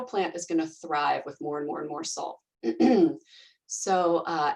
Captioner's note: clears throat